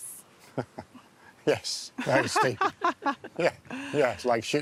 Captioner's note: laughs